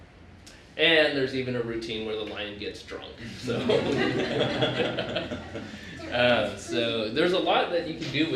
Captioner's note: laughter